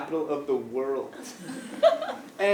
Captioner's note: laugh